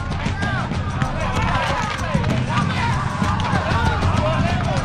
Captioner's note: soldiers chattering